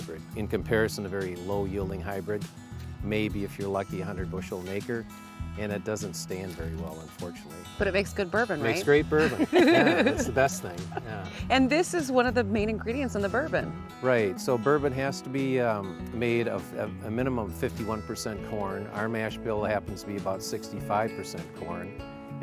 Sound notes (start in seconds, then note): 9.0 all laughing